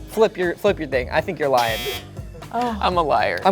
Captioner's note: buzzer beeping